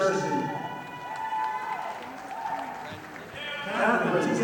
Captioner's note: audience applauding